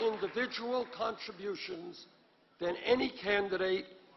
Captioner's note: applause